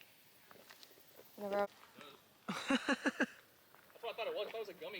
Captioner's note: laughing